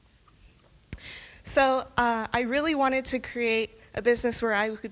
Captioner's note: none